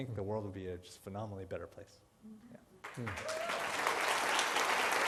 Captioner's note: applause